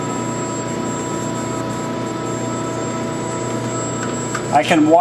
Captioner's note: machine whirring